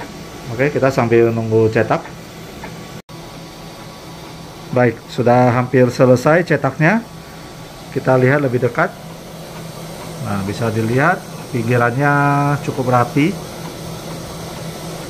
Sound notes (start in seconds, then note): 0.0 printer machine noise